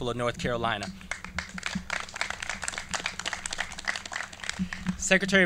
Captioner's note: clapping